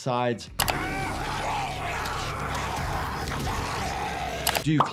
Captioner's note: zombie snarling